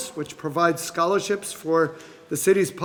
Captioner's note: none